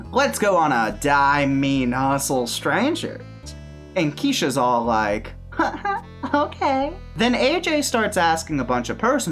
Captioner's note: giggle